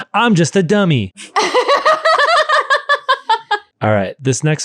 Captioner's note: laughing